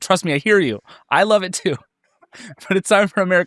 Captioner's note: laughs